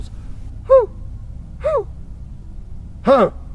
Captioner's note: hoots